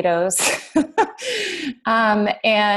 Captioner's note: laughs